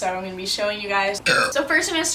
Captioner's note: burps